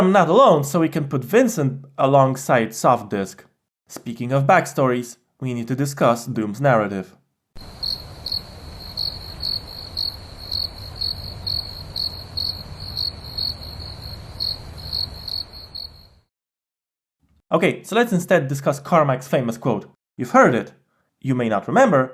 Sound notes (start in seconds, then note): 7.6 crickets